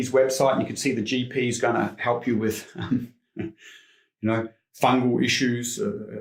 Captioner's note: chuckles